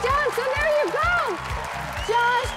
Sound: audience applauds

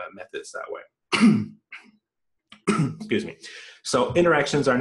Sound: coughs

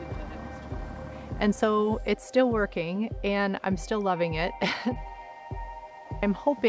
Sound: laughs

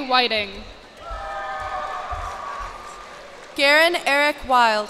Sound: cheers and applause

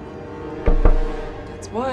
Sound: knocks

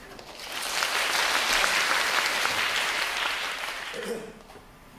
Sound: applause

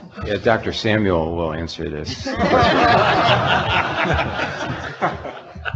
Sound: audience laughing

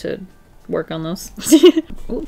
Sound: laughs

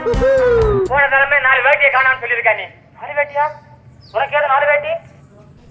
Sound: TV running in the background

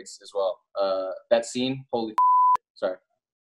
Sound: beep

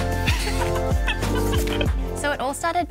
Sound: both laughing

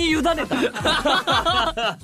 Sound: both laughs

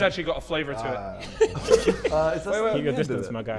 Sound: Sidemen laughing

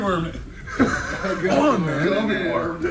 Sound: laugh

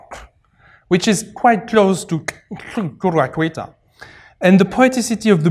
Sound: non-english

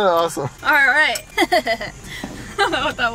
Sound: laughs

